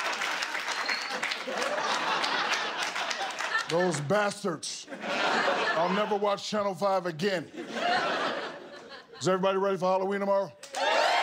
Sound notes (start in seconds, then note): 5.9 laughter and applause